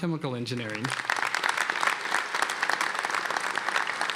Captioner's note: applause